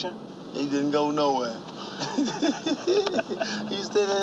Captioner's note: both laughing; car humming; hand slapping